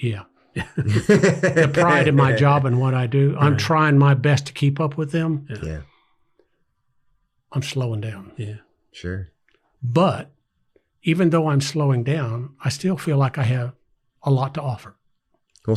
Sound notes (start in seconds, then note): 0.6 everyone laughs